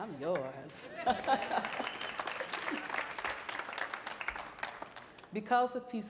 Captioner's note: audience laughing and applauding